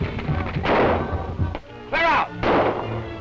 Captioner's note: gunshot